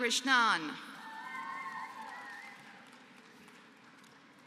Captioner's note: applause